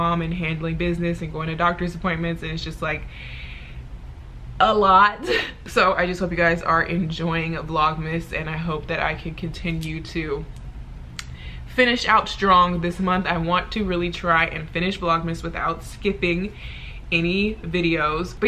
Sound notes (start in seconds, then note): 5.1 she laughs